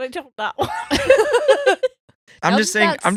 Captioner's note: laughing